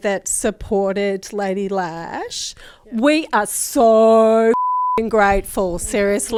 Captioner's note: beep